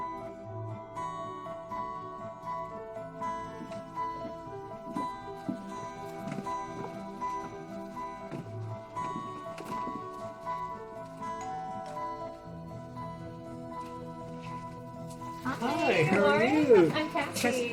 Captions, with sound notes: [DOORBELL RINGS] - HI. HOW ARE YOU? - WARREN, I'M CASSIE.